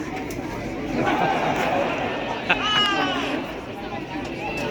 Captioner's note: jeers, cheers and laughter